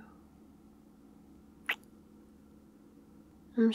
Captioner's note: kiss